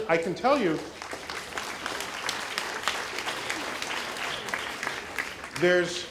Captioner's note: applause